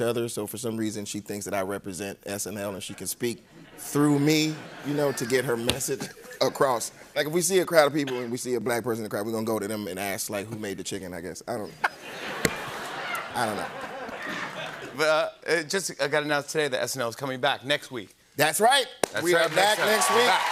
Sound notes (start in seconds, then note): 11.7 laughter; 19.3 cheers and applause